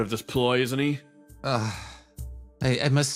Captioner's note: Gartrinus Sigh